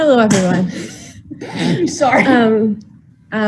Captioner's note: laughing